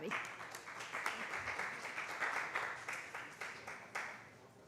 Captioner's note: applause